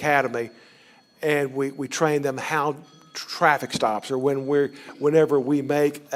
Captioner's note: cell phone ringing